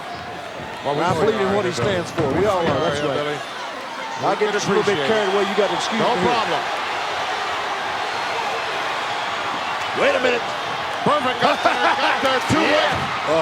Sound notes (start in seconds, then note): 9.1 audience cheering; 11.6 hillbilly chuckling